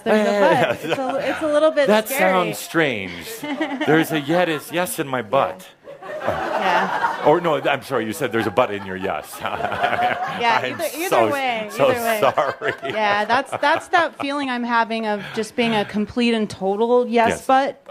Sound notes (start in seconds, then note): 5.3 laughter because it sounds like “butt”; 11.7 Adamus is chuckling